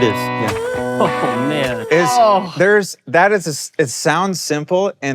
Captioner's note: laughing